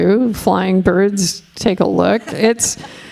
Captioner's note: laughing